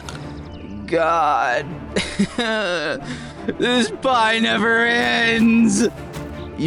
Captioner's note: cries